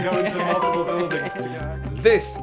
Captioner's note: giggles